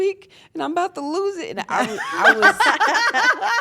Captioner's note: laugh